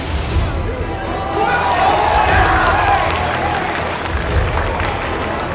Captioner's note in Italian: urla e applausi